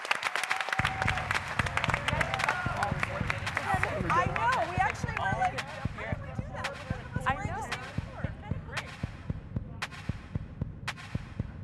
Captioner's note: cheers and applause